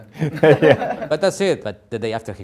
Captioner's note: all laugh